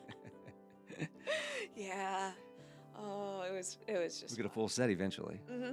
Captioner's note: laughing